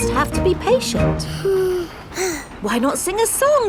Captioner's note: both sigh